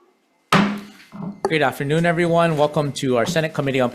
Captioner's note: gavel slams